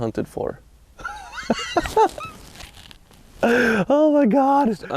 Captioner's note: laughs